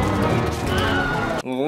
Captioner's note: scream